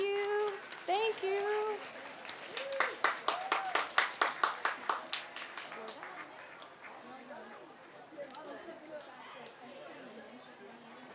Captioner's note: applause